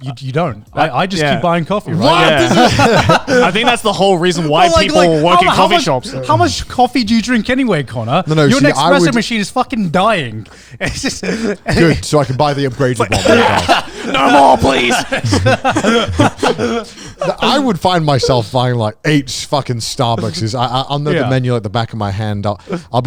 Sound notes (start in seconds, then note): 13.7 coughs; 16.4 laughs